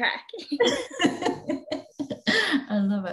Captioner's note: laughing